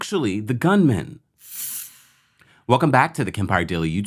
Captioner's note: screen whooshes